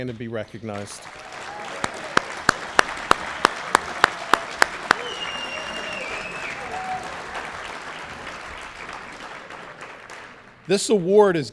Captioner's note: cheering and Applause